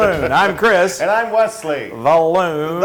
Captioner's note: laugh